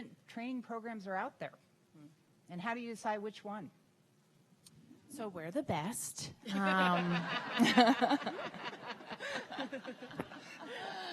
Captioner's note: laughter